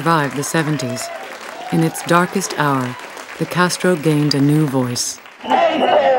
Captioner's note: crowd